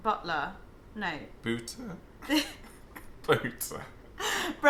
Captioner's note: laughing